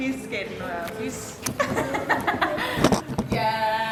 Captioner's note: laughs